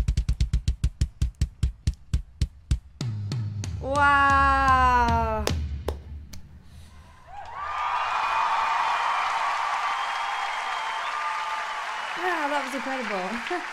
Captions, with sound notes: Wow! ( Crowd Cheers ) Wow! That was incredible